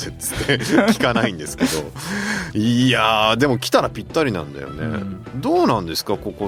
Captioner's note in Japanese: 笑い